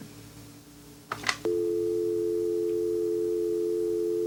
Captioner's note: dial tone